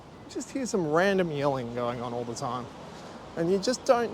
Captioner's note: yelling off camera